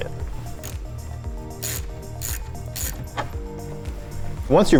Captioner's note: socket cranks